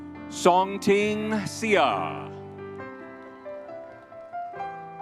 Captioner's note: crowd cheering